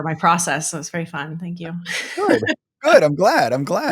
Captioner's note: laughing